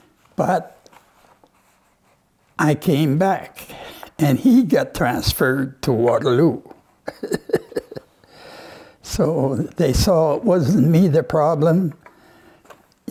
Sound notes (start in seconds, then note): 7.1 laughs